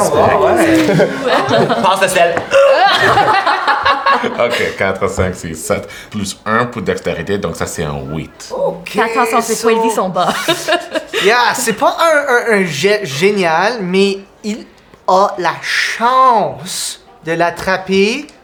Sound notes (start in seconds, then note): 2.4 grunts loudly; 3.1 laughter